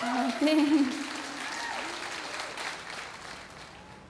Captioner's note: applause